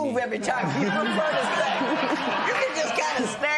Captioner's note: laughter